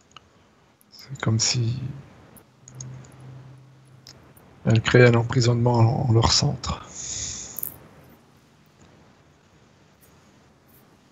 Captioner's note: storm